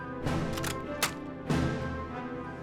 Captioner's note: cocks rifle